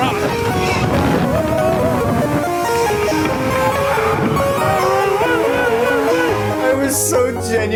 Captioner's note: lots of WAIT WAIT WAIT noises